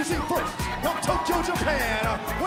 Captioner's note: crowd cheering